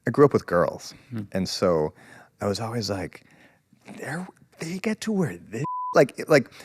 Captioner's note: beep